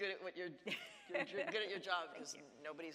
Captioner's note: laughs